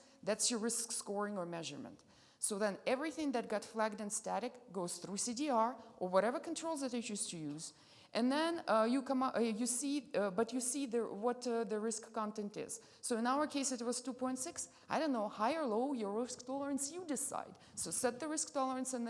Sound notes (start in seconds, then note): none